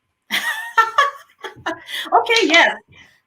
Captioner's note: laughing